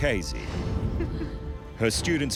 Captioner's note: chuckles